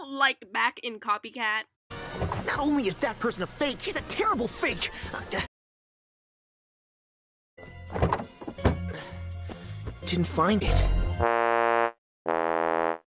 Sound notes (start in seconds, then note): 7.9 car door; 12.2 WAHHH-wahhh